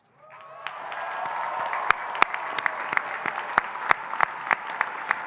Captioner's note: audience cheering and applauding